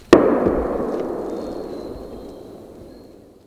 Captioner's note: gun bangs